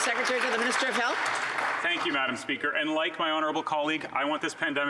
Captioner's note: some Applause